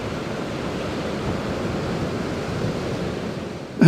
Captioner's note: sound of waves